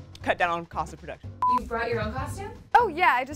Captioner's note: monotonous high pitch sound